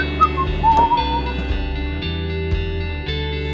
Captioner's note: whistling